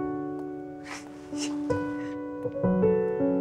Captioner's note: Chuckling